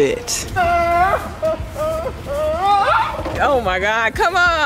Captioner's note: screaming